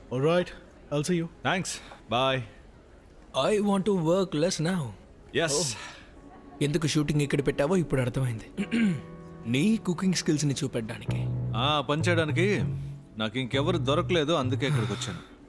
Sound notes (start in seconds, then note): 8.6 clearing throat